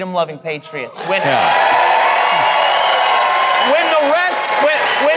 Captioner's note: audience cheers